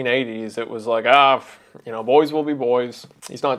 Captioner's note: scoffs